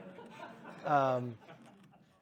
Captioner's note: laughter